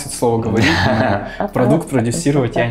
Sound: gay giggling again

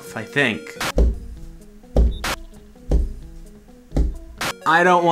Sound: banging

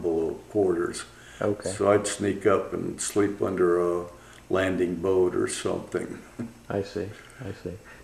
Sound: laughs

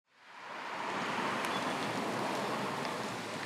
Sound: traffic whooshing

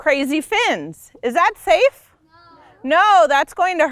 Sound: class in unison

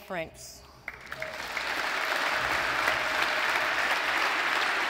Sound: audience applauds

